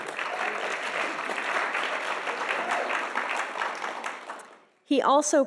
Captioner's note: audience applauding